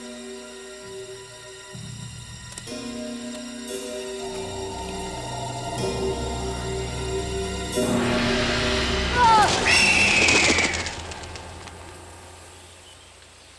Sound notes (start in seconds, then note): 9.0 vulture screams; 9.1 Ned screams